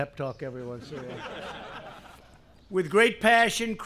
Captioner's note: laughter